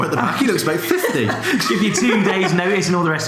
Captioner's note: laughs